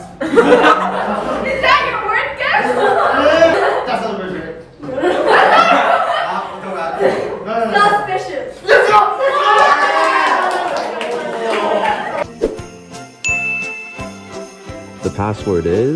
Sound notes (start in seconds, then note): 0.1 everyone chuckles; 5.0 guffaws; 8.6 cheer; 9.2 everyone applauds; 9.8 exclaims